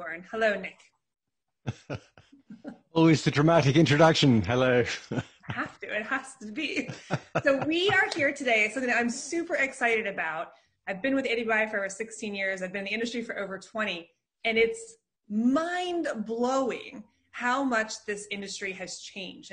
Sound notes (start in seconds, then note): 1.6 laughing; 6.4 laughing